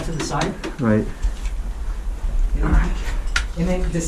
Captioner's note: thumping; whispers